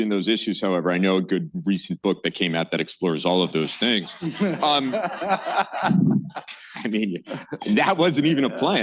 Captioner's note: laughter